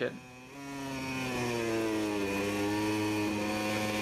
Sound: bike engine roaring

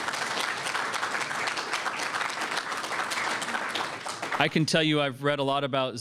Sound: applause

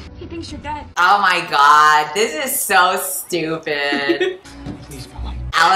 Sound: laughs

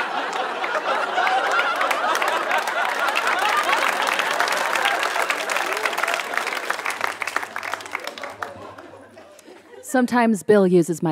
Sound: laughter; applause

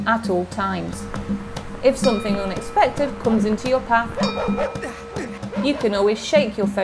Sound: barking dog sound

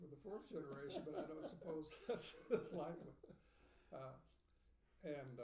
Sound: speaking faintly

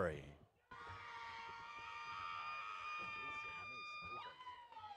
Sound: audience cheers

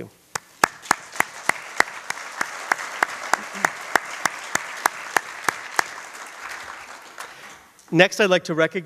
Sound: applause

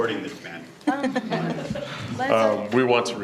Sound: people chuckling

